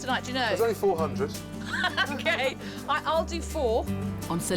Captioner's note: laughing